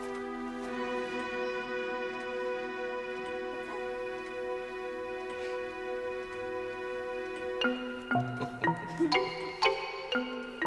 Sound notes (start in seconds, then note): 8.0 Pod and Arrietty chuckle